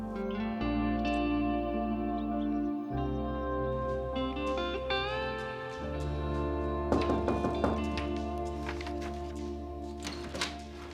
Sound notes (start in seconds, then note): 7.0 E.J. knocking